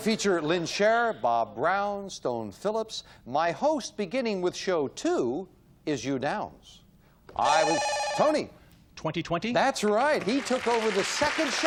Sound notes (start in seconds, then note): 10.2 beep